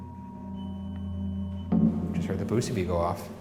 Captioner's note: device beeps